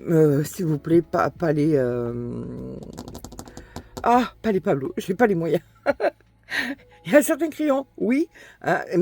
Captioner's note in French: rires